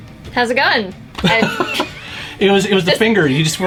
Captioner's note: laughs